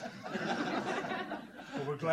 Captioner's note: laughter